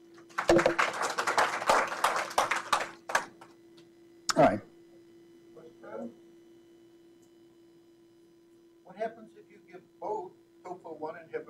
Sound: applause

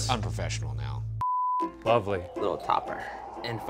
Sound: beep

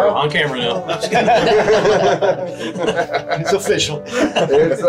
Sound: everybody laughs

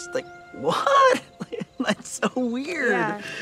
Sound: laughs

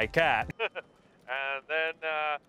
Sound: laughs

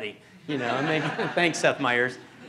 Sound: laughter

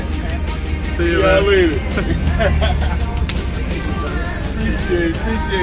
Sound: laughs

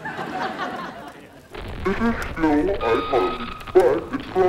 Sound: distorted voice

